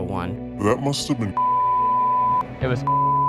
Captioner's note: distorted Voice; beep